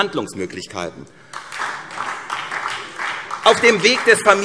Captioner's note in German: Beifall SPD